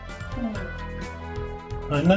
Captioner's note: dog groans